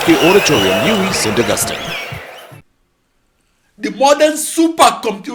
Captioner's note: wild applause and cheering for 22 seconds